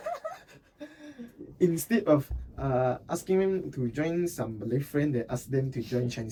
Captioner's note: laughing